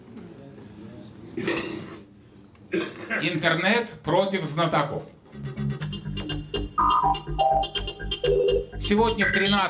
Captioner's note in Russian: откашливается